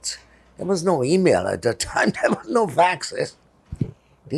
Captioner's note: laughing